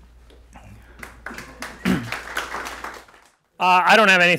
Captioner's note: clapping